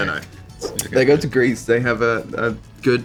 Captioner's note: slide swipe